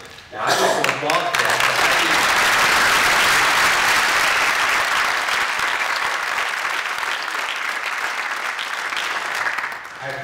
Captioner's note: applause